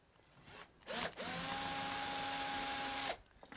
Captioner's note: drilling